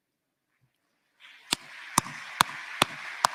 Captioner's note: applause